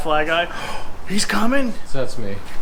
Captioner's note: gasps